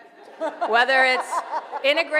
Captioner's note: laughing